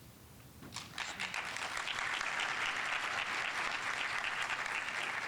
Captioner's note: audience applauding